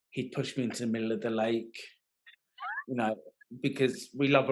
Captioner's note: laughing